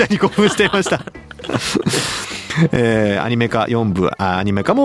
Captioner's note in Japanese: 笑い